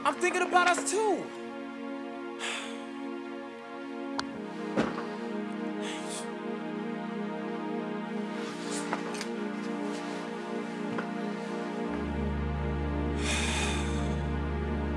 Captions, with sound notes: I'm thinking about us, too! Angel. (sighs)